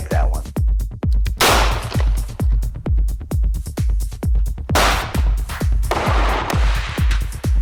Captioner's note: upbeat music continues; gunshots blasting